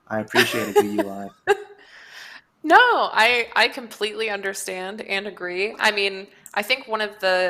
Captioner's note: laughs